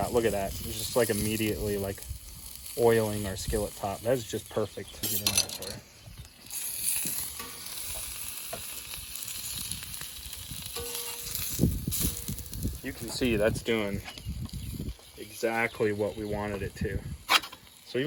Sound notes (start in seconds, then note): 6.1 murmurs; 7.8 sizzle and spattering